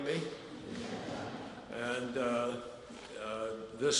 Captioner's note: laughter